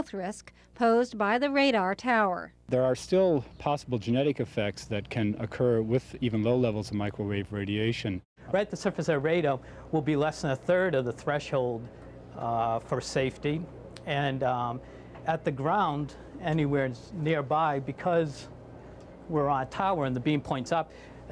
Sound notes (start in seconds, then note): none